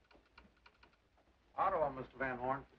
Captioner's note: telegraph clicks